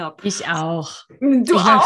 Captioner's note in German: lachen